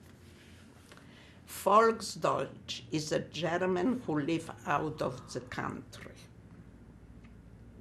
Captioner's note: german